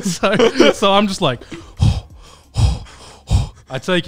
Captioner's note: breathing heavily